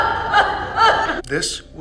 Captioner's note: Kima coughing